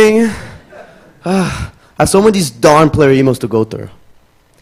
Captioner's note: sighs